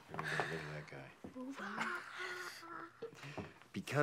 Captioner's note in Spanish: risas